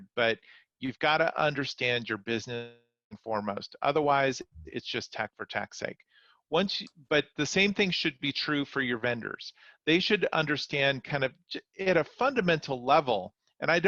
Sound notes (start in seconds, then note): 4.4 distortion interrupts the speaker